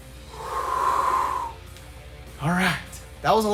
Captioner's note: exhales